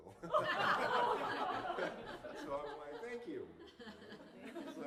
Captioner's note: laughter